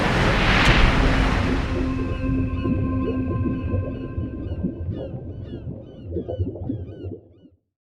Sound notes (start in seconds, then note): 1.8 seagull squawking